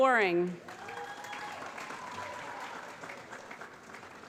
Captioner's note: applause